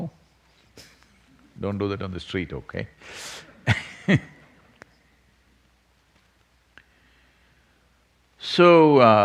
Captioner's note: laughs